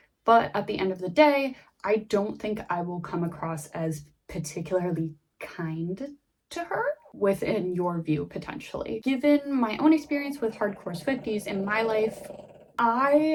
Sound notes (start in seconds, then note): 9.8 dog snores loudly